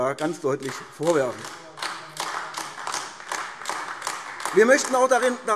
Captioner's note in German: Beifall AfD